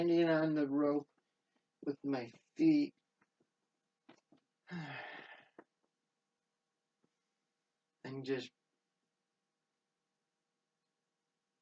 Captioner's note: sighs